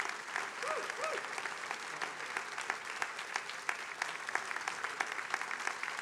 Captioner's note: attendees applauding